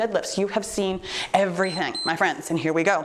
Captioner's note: timer beeps